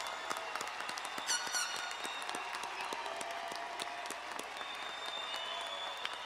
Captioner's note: horns blowing, crowd applauding